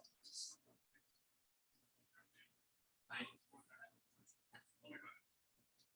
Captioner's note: people chattering indistinctly